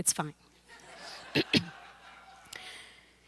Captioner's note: laughter